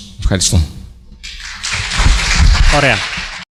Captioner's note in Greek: Χειροκροτήματα